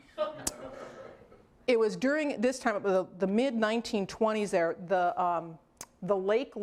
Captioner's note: laughter